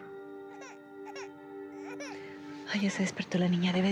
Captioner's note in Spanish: llanto de bebé